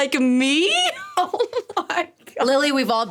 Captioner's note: laughing